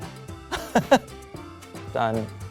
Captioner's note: laughs